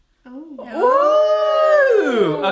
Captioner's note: all screaming